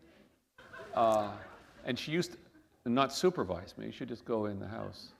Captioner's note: laughter